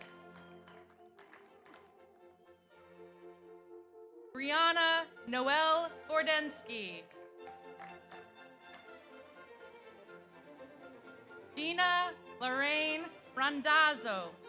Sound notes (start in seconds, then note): 0.0 audience applauds; 7.0 audience applauds